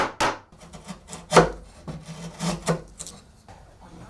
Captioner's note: hammering; wood scraping